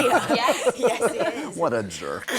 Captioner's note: laughter